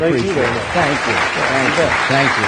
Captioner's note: applause